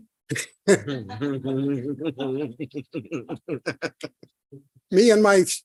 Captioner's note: crowd laughing